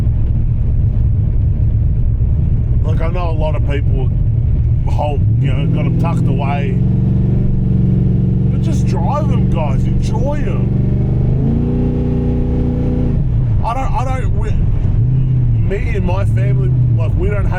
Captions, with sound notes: (engine revving) Like, I know a lot of people got them tucked away, but just drive them guys, enjoy them. (engine revving) I don't, me and my family, like, we don't